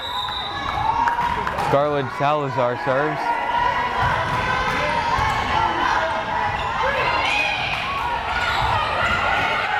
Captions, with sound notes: (whistle blares) Scarlett Salazar serves. (crowd cheering)